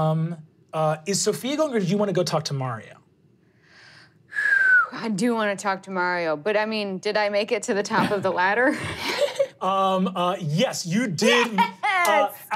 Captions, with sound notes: Is Sophia going, or did you wanna go talk to Mario? (whistles) I do wanna talk to Mario, but I mean, did I make it to the top of the ladder? - Yes, you did. - Yes!